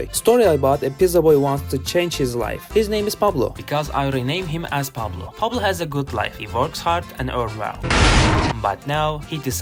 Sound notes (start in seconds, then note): 7.8 crash!!!